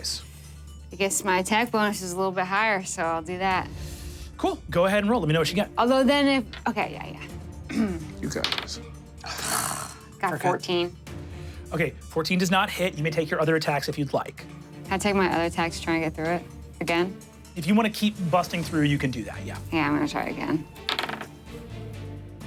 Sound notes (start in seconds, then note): 7.6 clears throat; 8.4 dice rolling; 9.2 sighs; 20.8 dice rolling